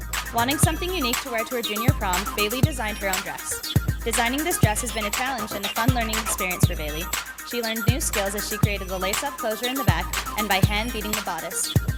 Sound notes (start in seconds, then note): none